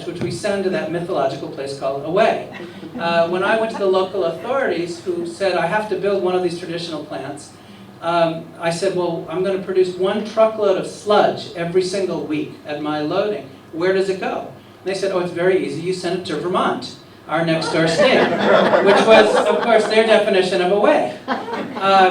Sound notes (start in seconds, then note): 17.6 laughter